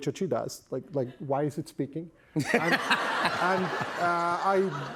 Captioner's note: laughter